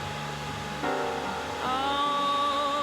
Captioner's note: machines whirring